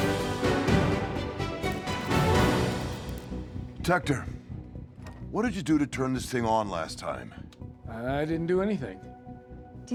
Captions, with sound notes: (light buzzing) - Tector, what did you do to turn this thing on last time? - I, I didn't do anything.